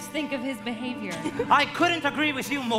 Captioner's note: Anna laughs